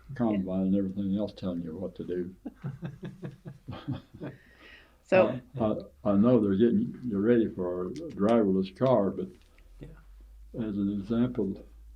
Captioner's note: laughter